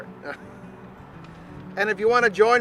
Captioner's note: chuckling